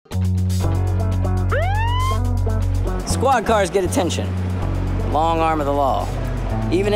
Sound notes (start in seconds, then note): 0.1 funky music playing; 1.5 police siren wailing